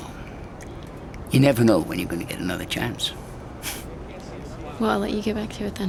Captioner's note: chuckles